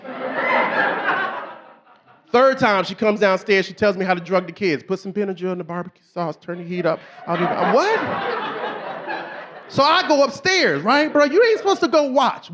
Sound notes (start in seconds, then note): 9.3 audience laughing